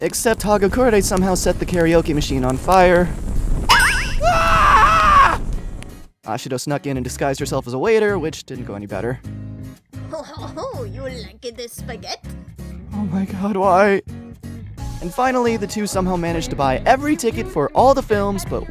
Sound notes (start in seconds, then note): 3.6 screaming; 9.9 fake french accent